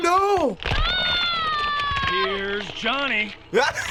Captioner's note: in game: screaming; laughs loudly